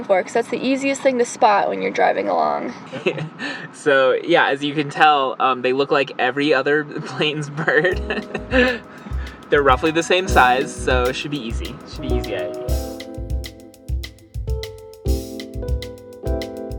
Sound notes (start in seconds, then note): 2.5 nervous laughter; 8.2 calm music starts